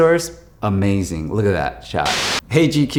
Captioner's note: screen buzzes